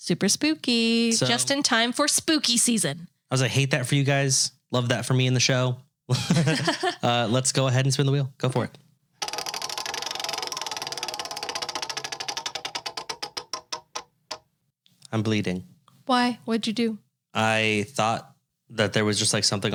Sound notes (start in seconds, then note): 6.1 both laughing; 9.2 wheel clicking